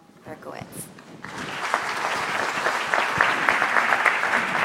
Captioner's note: audience applause